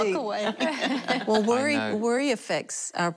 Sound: laughter

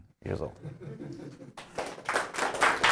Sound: audience laughing; audience applauding

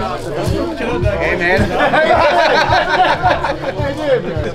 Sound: laughs

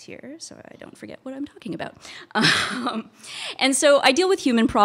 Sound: laughs

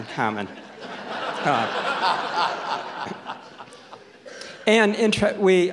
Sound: audience laughs

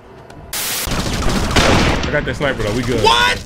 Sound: guns shooting

